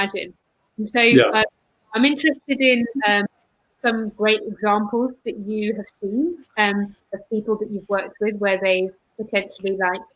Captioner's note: erm